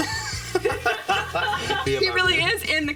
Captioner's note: laughing